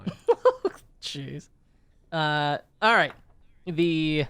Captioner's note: laughs